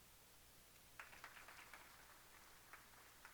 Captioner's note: applause